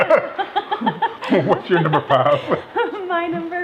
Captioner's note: laughing